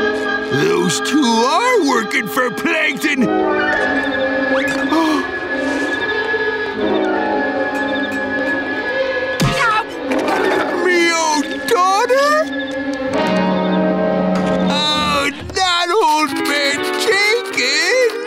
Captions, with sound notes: Those two are working for Plankton! [gasps] Ow! My own daughter? Oh, not Old Man Jenkins!